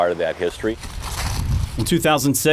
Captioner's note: footsteps